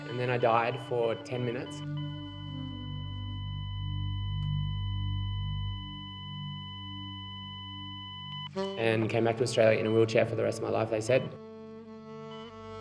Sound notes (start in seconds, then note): 2.3 continuous beeping